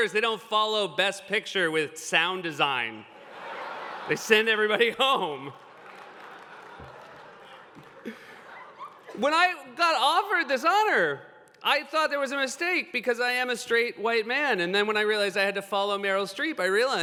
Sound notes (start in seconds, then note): 5.6 laughter